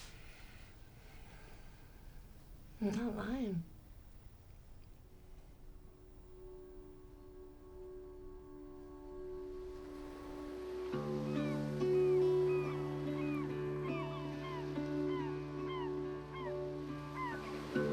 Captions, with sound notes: I'M NOT LYING. [ SEA GULLS SQUAWKING ]